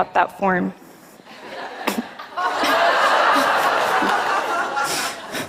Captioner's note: laughter